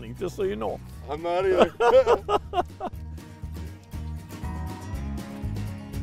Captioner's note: laughing